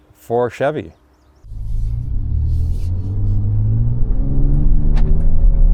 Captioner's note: engine revving